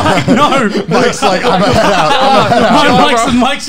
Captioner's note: laughing